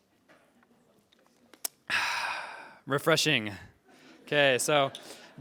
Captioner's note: refreshing sigh